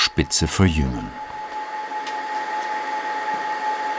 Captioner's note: even whirring